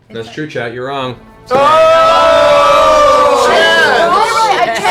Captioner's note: shouting